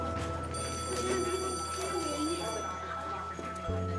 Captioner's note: bell rings; kids chattering indistinctly